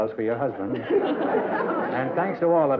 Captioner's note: laughter